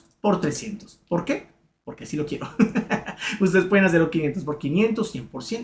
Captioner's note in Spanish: risas